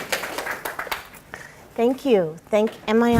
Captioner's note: applause